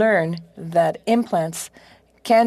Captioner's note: speaking French